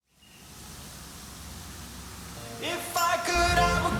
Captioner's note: water rushing